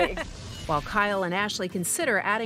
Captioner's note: laughs